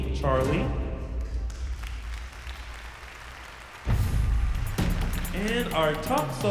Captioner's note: applause and cheering